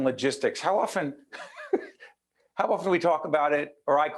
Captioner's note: laughing